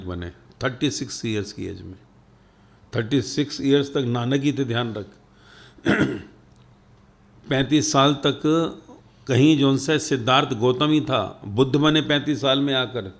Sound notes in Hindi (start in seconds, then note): 5.8 गला साफ़ करने की आवाज़; 5.8 खांसने की आवाज़